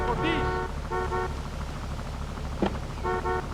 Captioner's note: horn honking